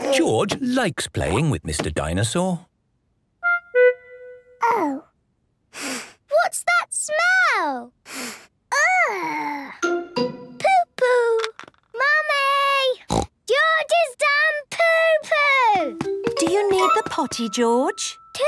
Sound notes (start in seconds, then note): 5.7 sniffs; 8.0 sniffs; 13.1 snorts